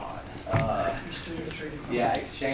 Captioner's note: voiceover